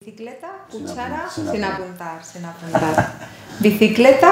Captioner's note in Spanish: risas